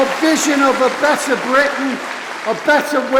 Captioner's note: applause